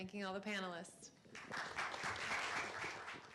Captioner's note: applause